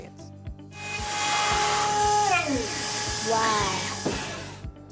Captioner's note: machine roaring